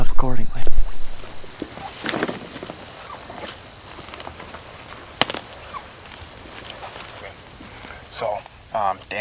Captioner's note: walking